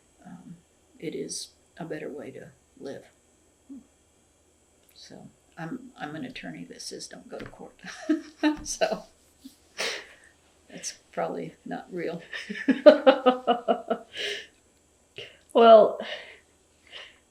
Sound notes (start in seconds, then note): 12.3 laughter